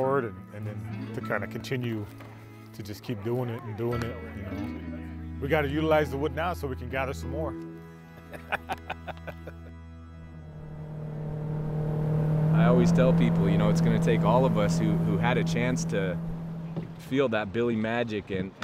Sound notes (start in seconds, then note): 8.1 laughing; 9.6 boat motor rumbling